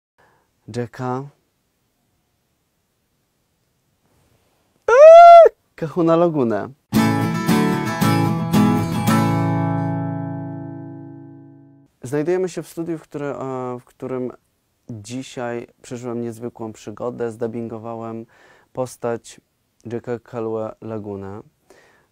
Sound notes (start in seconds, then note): 1.7 adorable squeal